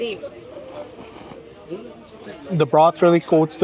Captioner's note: people chattering